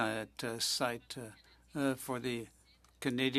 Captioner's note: speaking French